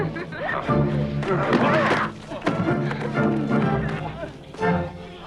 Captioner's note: all grunting